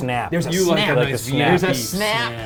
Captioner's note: indistinct conversation